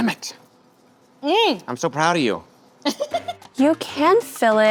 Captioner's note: laughs